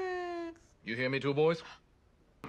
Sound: high voice; deep voice

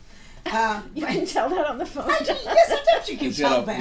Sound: voiceover

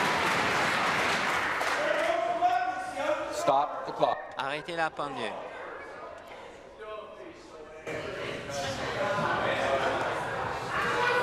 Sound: applause

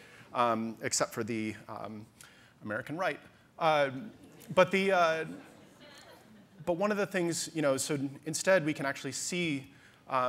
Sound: audience laughter

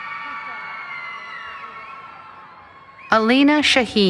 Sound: cheering

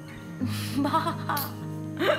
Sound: laughing

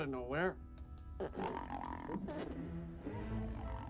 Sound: gurgling continues

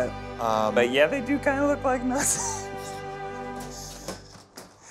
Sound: laughs

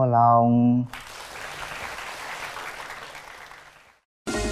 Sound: applause

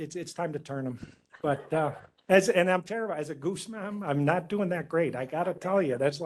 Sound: laughing

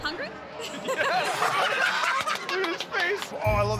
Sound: laughter

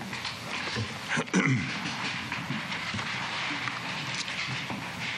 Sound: clears throat

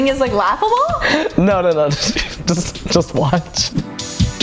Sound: chuckles

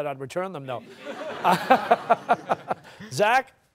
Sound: laughter

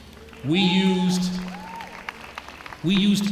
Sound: applause

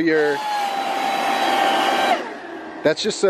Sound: air whooshes

